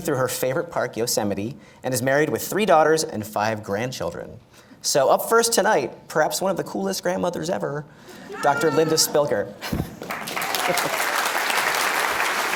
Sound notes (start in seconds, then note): 10.0 applause